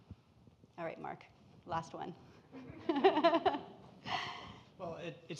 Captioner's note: laughs